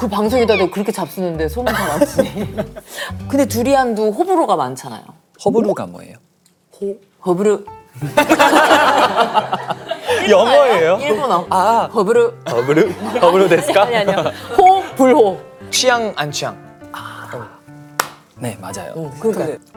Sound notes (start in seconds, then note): 15.7 explaining it in Korean